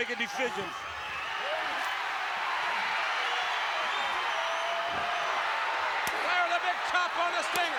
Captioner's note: applause